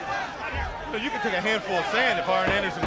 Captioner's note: crowd chatter